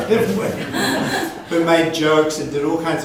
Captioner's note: audience laughs